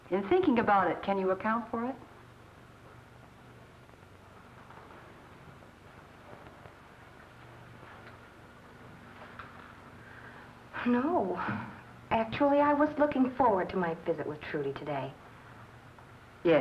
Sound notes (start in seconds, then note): 6.9 footsteps; 8.9 sighs